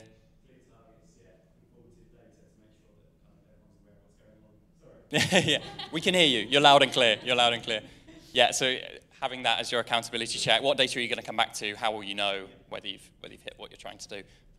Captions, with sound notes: Clear targets, yet informative data to make sure that everyone's aware of what's going on (laughing) We can hear you. You're loud and clear, you're loud and clear. Yeah, so having that as your accountability check. What data are you gonna come back to? How will you know whether you've hit what you're trying to do?